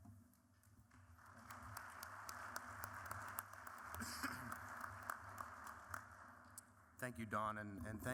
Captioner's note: applause